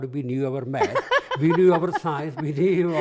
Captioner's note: laughs